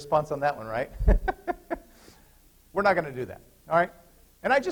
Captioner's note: laughter